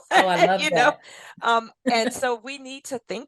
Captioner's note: laughs